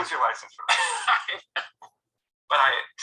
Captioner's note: laughter